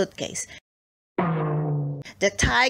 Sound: bonking sound

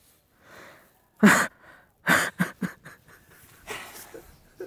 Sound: sobs

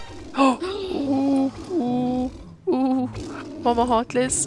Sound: surprised gasp and scared noises

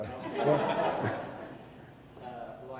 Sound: audience laughter

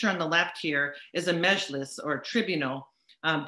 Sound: speaks in foreign language

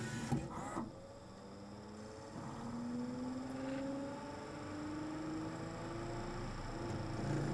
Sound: disc rapidly speeds up

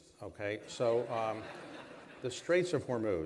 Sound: laughter

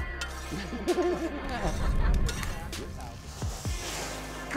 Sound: chuckles

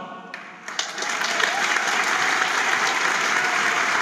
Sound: audience applauds

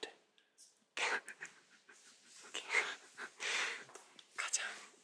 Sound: laughs

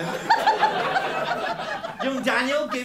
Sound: laughter

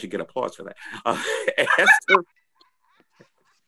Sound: laughter

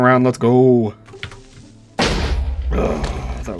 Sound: stressed groan; creeper explosion

